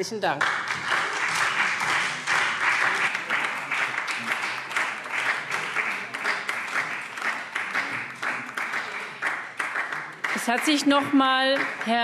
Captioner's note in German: Beifall SPD, Freie Demokraten und DIE LINKE